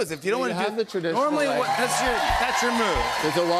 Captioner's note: cheers and applause